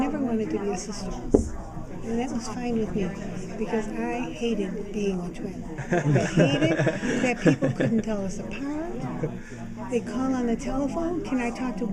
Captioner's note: laughter